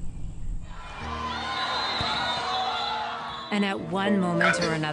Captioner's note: spectators cheer; whistle blows